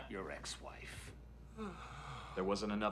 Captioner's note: sighs; Jason sighs in relief